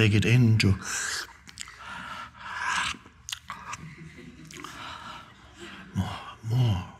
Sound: Eckhart drawing in air and smacking lips

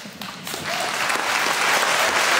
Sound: applause

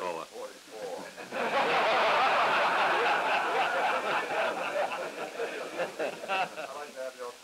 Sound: laughter

